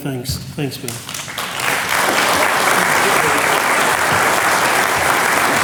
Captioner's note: audience clapping